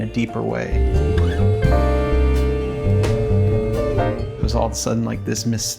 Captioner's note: vocalizing